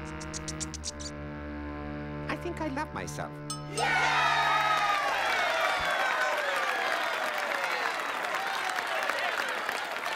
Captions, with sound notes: I THINK I LOVE MYSELF. (CHEERING AND APPLAUDING)